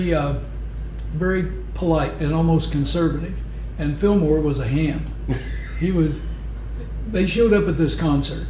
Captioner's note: laughter